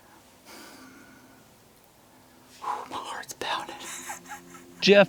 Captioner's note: whispering